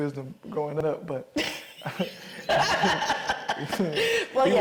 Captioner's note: both chuckling